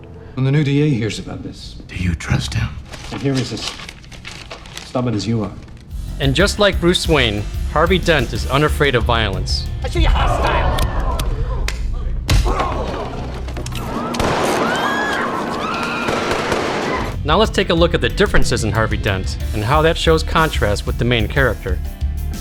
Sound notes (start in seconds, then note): 13.9 gunshots